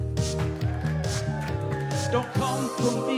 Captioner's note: crowd cheering